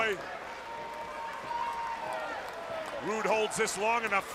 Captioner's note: crowd chatter